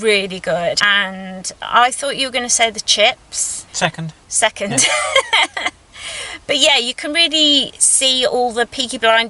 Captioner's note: laughs